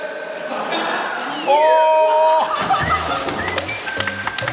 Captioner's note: hugging each other tightly and splash!